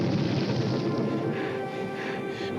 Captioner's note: panting